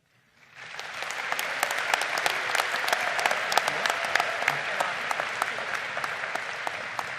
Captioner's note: audience clapping